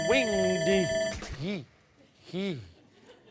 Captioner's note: timer sounding; stammering